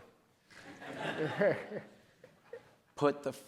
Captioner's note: audience laughs